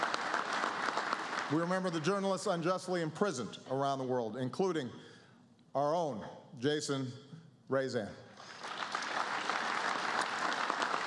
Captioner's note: applause